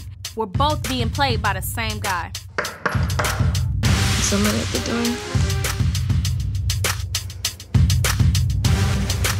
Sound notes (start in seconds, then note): 2.5 knocking; 5.5 dramatic music